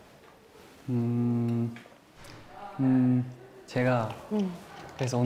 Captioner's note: hesitant